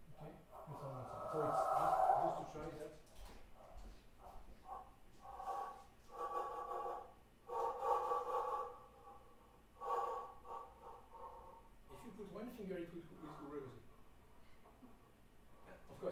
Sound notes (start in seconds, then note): 3.1 dragging sound playing